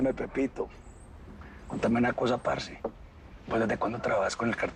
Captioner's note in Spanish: none